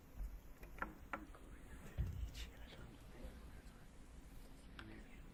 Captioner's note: Hardin teammates whispering